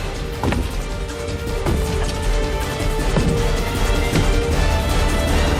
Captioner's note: heavy footsteps